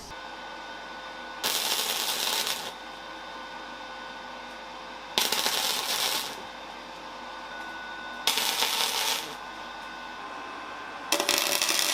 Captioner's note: working sound